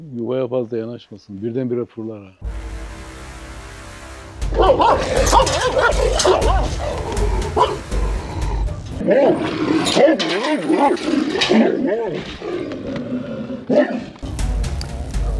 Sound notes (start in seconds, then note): 3.8 barking sounds and tense music